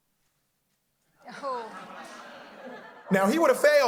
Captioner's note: audience laughing